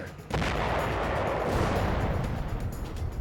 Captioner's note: explosion